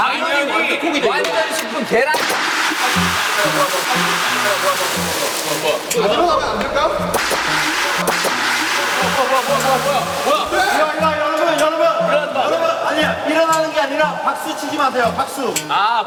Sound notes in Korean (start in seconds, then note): 8.0 짝짝